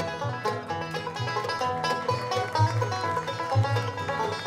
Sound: audience applauds

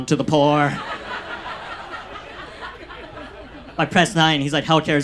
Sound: audience laughs

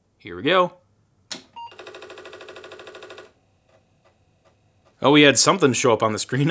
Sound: clicking and beeping

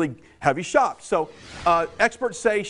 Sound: screens swoosh

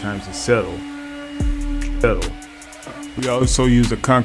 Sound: concrete vibrator whirring

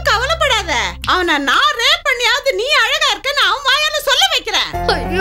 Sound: snaps finger

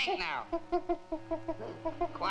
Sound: gorilla chittering

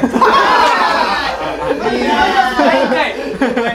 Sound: laughters

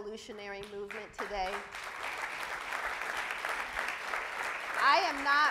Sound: audience applauds

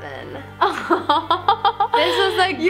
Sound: laughing

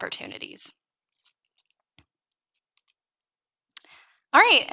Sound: mouse clicking

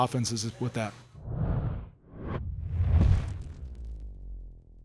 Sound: whoosh

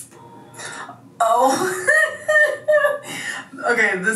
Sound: laughs

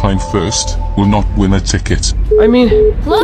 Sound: beeps

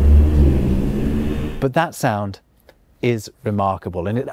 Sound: replay of deep hum

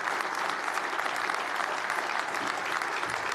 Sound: applause

